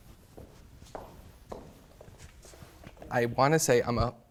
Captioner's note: feet stomping